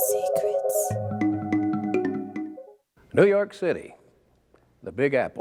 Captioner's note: intriguing music; lady whispering "secrets"